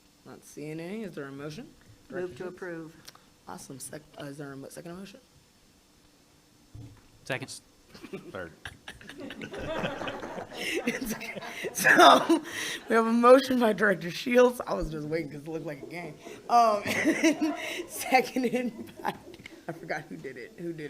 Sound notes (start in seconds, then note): 7.9 board members laugh